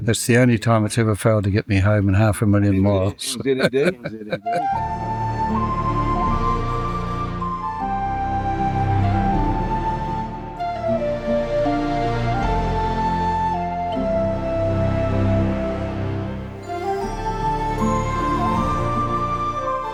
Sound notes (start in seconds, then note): 3.0 laughter